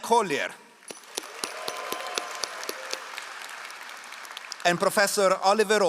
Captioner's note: all applauding